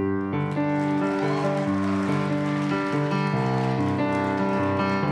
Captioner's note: applause